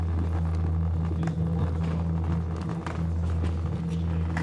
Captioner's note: suitcase rattling